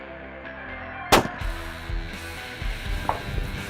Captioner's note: gun Shot